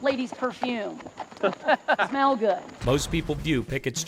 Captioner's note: laughing